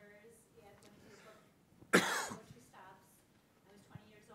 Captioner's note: coughing drowns out speech